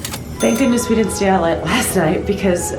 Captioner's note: ding